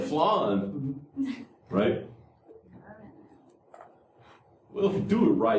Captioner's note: laughter